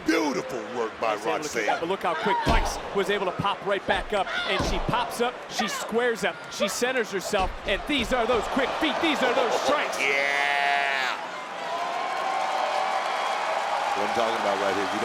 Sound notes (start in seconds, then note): 9.6 audience cheers; 11.8 audience applauds and cheers